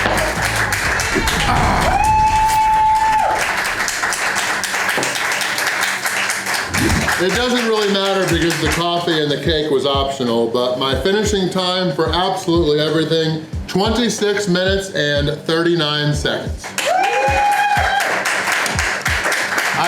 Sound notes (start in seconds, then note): 0.0 crowd applause; 3.1 more crowd cheering and applause; 16.7 crowd applause